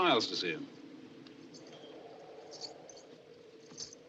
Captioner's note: bracelets Jingling